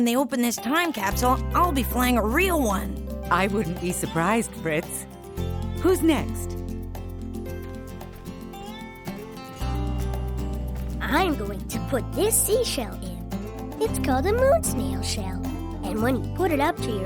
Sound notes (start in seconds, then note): none